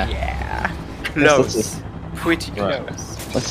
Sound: chuckles

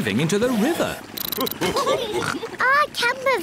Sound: all laugh

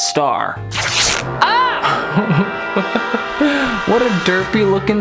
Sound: sticker ripping off

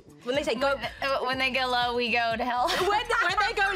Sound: laughs

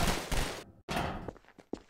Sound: gunfire Continues; metal Footsteps; concrete Footsteps

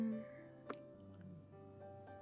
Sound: kiss

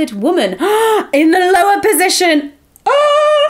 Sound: gasping

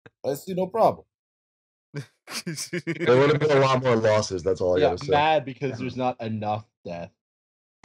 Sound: laughter

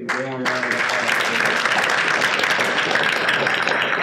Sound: participants applauding

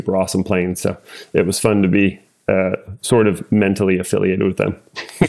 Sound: laugh

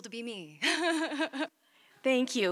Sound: chuckles

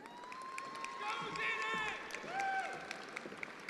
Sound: attendees applauding

